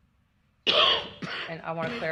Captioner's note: coughing